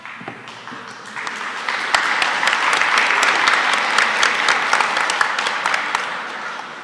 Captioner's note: applause